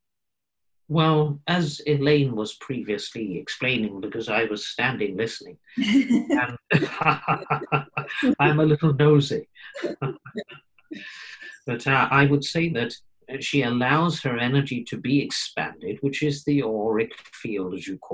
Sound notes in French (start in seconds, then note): 9.6 Rires